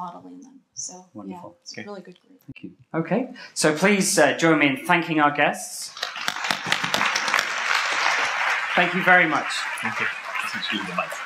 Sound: applause

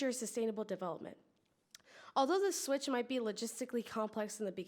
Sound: none

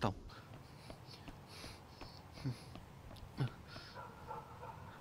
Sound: footsteps

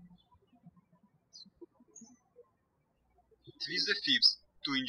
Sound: birds chirping

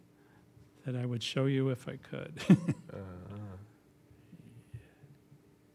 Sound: laughs

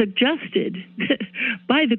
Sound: chuckles

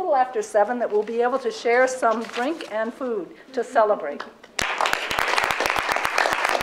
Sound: applause

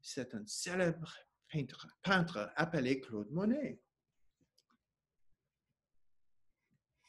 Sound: speaking French

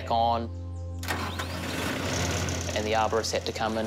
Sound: motor starts, rumbles

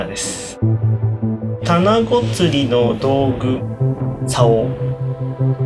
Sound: speaking in foreign language

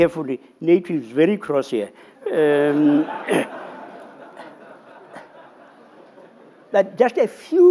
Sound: laughter

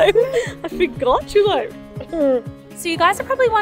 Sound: laughing

